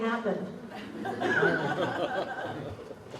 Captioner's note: laughter